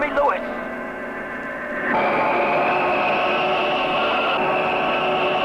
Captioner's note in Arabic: هدير محرك الصاروخ